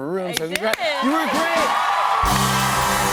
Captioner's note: cheers and applause